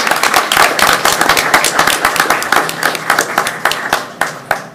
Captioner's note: audience clapping